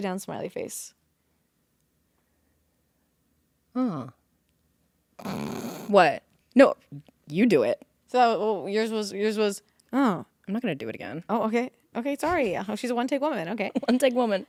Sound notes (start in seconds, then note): 5.2 Courtney snickers